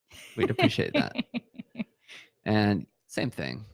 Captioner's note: laughing